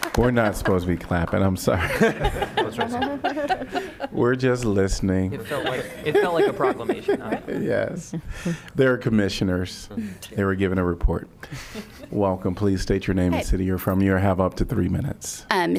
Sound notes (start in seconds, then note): 1.6 laughter